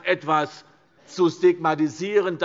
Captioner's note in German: none